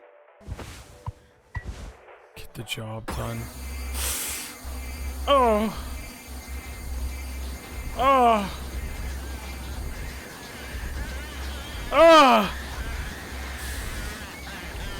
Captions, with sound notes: "Get the job done." (high-pitched whirring) (gasps) Oh... Ough... (Curly yelling in pain) Ouh...